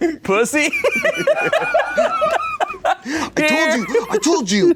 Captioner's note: everyone laughs